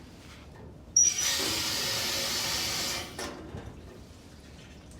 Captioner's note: water running